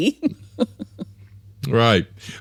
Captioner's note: laughs